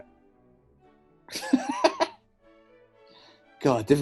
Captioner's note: laughs